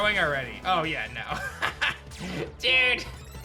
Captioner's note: chuckles